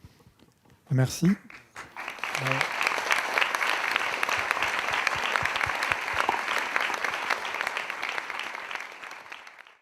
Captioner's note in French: Applaudissements